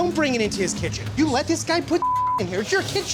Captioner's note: beep